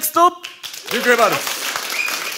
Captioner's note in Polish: oklaski publiczności